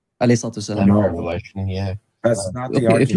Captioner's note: speaking in foreign language